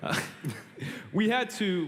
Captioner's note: chuckles